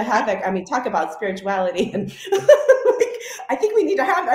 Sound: laughs

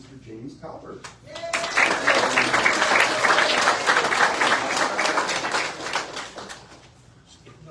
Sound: audience cheers and applauds

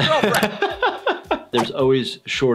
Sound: laughter

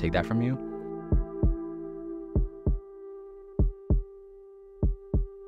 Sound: heartbeat pulses

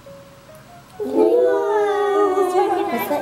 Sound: kids exclaim in surprise

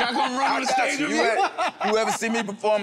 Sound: everyone laughing amusingly

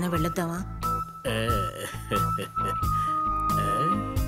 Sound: laughs

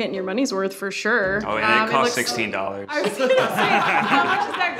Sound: group laughs

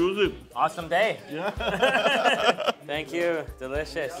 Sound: laughs

